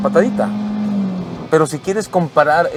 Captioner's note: engine revving